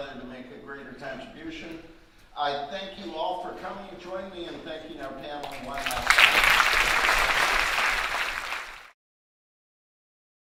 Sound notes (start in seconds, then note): 5.4 audience applauding